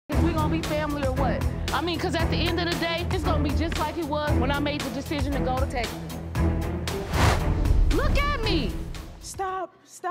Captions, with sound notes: If we gonna be family or what? I mean, 'cause at the end of the day, it's gonna be just like it was when I made the decision to go to Texas. (suspenseful music) (swooshes) Look at me. Stop, stop.